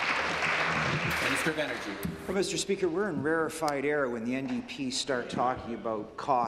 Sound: applause

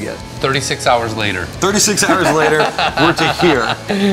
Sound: laughs

